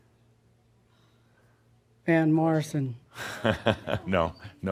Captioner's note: chuckles